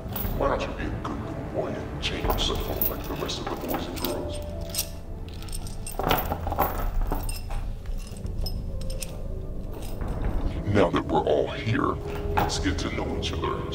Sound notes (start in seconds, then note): 5.0 chains clanking